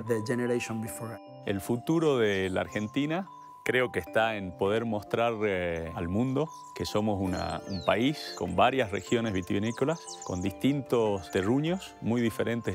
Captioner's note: speaking Spanish